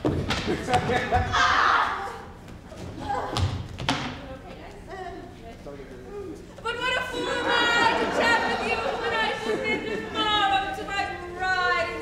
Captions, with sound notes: - You accepting bets? - Up! - You okay, then? - Un-huh, yes. - But what a fool am I (audience laughs) to chat with you when I should bid good morrow to my bride